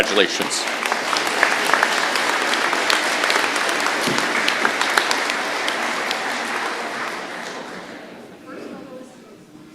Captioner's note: applause